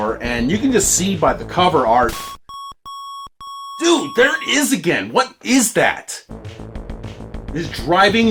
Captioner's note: annoying beeps